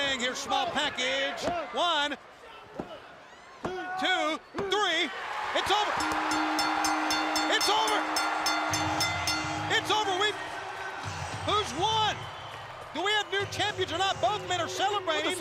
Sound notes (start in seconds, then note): 6.3 crowd cheering; 7.5 bell ringing